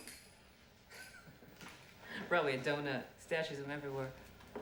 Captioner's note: chuckling